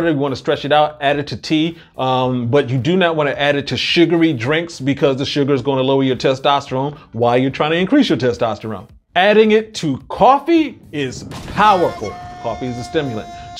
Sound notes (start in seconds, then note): 10.9 blasting sound; 11.1 shouting